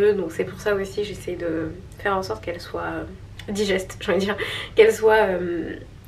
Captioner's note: laughs